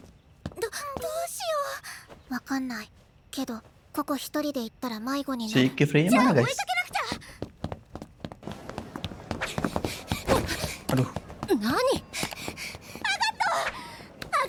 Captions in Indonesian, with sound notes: Siya mana, Guys? [terengah-engah] Aduh.